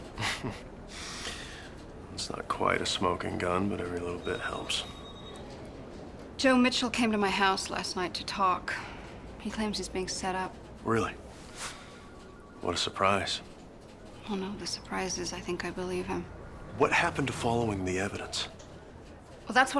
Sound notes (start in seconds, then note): 0.1 laughs